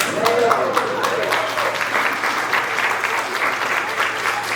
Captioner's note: audience applauds